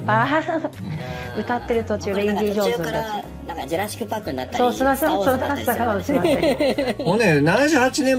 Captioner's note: laughs